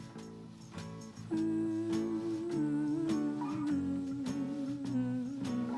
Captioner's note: humming